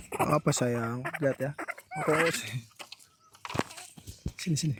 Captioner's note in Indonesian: tertawa